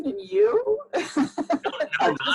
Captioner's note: laughs